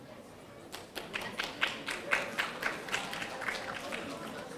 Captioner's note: audience applauding